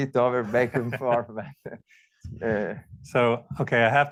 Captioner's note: both laugh